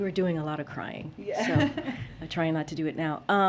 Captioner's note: laughs